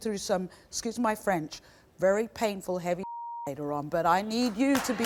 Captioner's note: beep